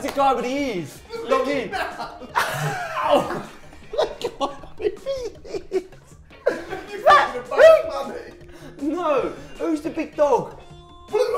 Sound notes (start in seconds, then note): 2.4 laughing